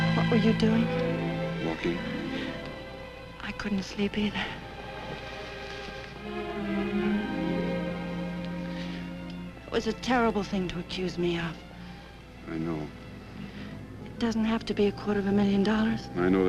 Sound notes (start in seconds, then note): 2.5 Doris gasps